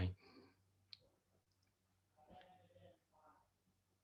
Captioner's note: silence